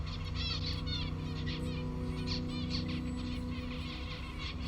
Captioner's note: birds warble